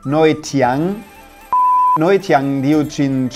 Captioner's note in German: Piepton